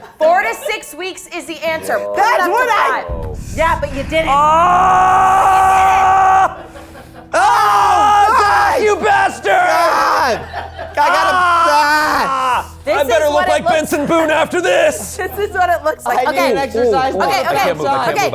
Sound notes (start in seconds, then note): 5.9 yelling; 11.0 yelling